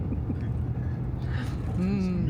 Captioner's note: laughing